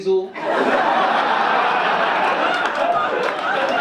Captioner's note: audience laugh